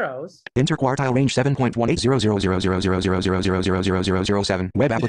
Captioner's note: voiceover